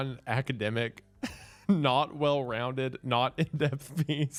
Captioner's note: laughing